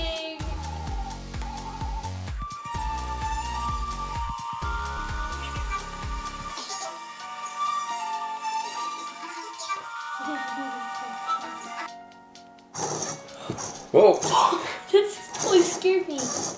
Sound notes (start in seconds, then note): 0.2 mystical chiming music; 12.8 whirrs